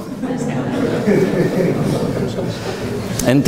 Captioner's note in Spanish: risas